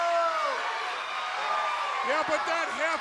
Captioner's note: crowd clamoring